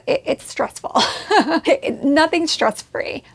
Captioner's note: laughs